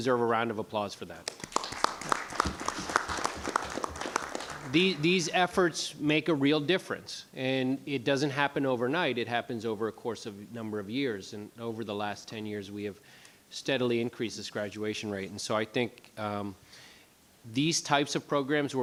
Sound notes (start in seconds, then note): 1.2 applauding